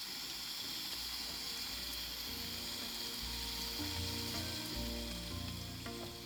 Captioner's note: water sounds